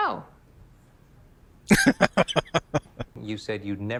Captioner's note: laughing